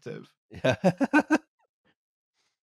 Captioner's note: laughs